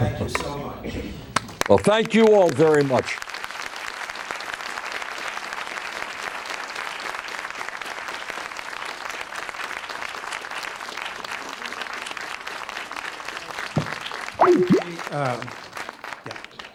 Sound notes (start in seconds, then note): 3.1 applause